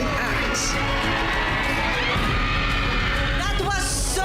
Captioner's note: cheering; shouting